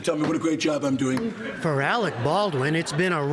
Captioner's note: laughter